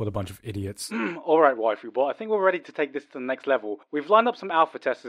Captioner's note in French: se racle la gorge